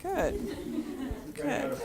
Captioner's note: laughter